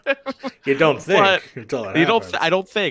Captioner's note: laughs